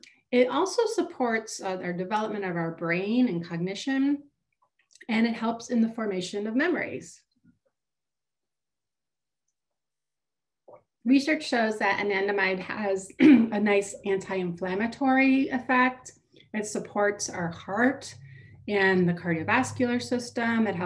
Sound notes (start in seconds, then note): 13.2 clears throat